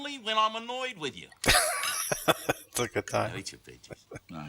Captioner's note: laughing